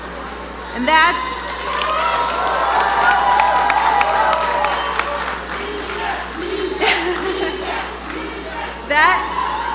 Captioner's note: cheers and Applause; chanting